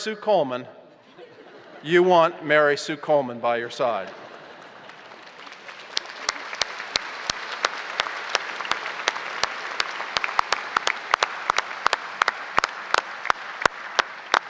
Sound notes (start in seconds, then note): 7.5 applause